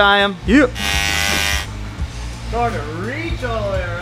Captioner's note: welding